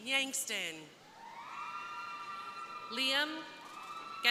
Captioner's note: crowd cheering